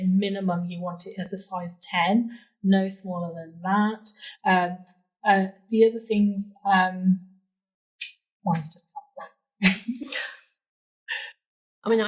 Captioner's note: laughing